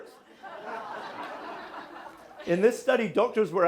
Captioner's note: audience laughing